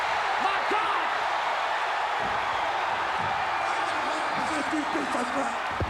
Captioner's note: crowd cheering